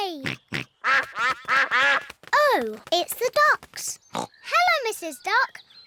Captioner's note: quacking